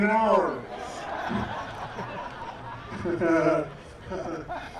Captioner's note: laughter